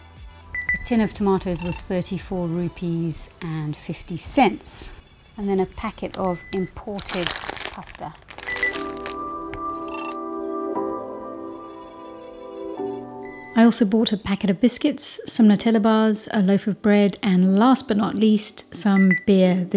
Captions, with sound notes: A tin of tomatoes was 34 rupees and 50 cents. And then a packet of imported pasta. (package crackles) I also bought a packet of biscuits, some Nutella bars, a loaf of bread and last but not least, some beer.